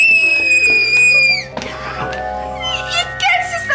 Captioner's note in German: Lauter, hoher Schrei